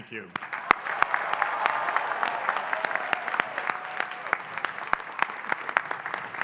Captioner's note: audience applauding and cheering